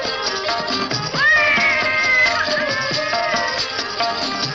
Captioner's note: baby crying